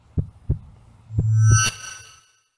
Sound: …Heartbeat…; …sound effect…

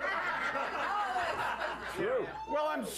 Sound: laughter

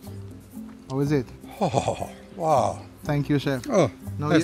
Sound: groans happily

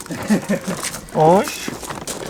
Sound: petting voice

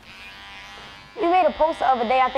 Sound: razor buzzing

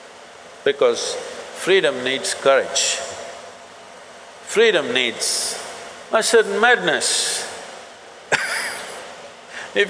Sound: laughs

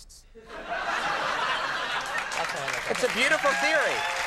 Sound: audience applauds

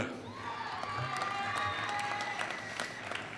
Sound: applause

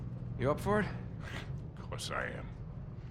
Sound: laugh

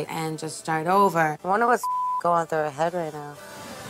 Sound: beep

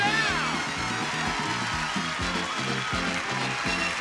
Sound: audience cheer; theme song continues

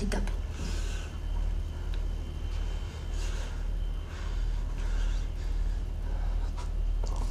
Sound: heavy breathing

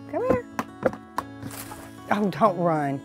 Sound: container lid knocking

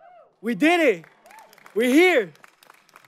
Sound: audience clapping

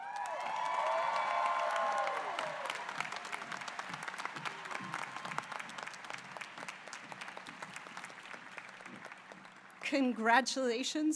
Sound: applause

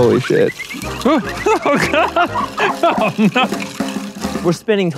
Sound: laughing

